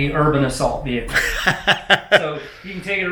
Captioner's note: laughs